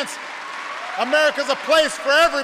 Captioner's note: applause